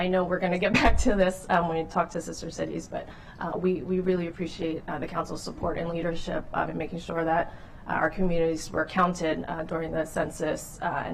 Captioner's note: laughter